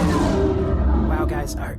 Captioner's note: sounds of ships whooshing